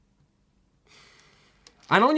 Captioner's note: pointed intake of breath